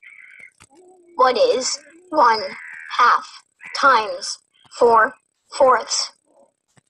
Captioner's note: voiceover